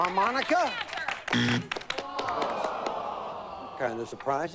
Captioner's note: buzzer